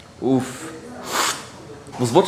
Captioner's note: sips